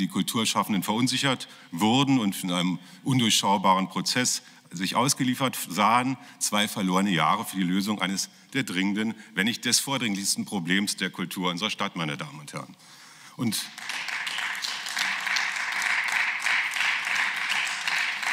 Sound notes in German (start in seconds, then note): 13.5 Beifall